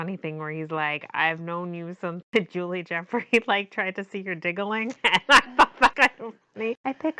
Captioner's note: laughs